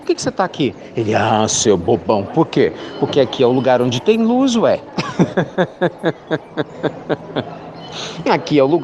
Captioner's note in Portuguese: Risos